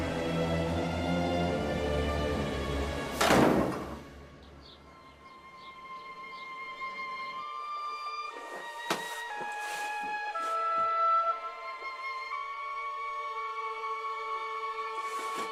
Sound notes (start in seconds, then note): 3.2 door closes